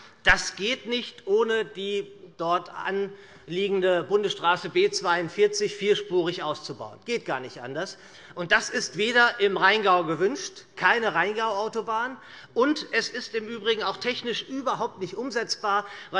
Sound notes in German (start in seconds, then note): none